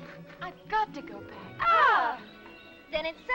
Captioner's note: both groaning